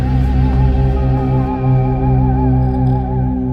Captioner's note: space sound